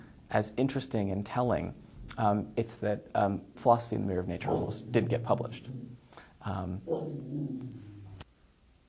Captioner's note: dog growls